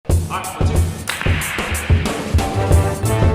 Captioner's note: clap!